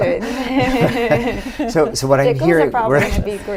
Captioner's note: laughter